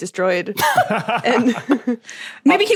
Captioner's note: group laughing